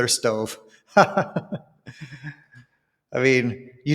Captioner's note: laughs